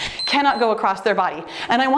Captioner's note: timer beeps